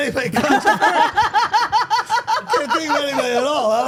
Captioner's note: everyone laughing